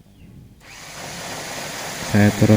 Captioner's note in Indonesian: suara mesin